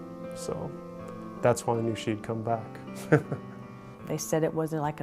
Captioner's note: laughs